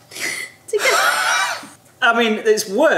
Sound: they laugh

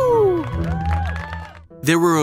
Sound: yawning; people cheering

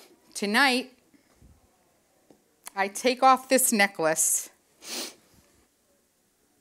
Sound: sniffs

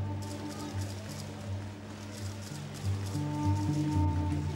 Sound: cameras snapping

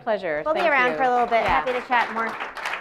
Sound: applause

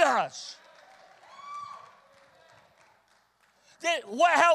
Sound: congregation cheers and applauds

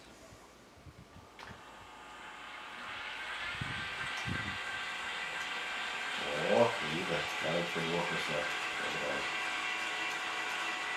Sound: telescope buzzes

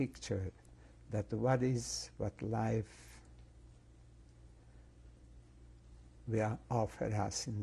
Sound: pauses for 3 seconds

